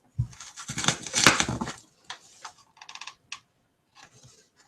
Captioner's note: foam crunching